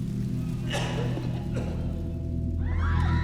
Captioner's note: coughing; screaming